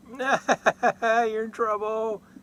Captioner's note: laughter